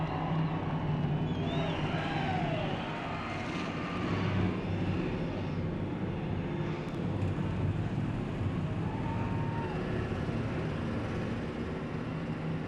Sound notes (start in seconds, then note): 0.0 cheering; 0.1 engines roar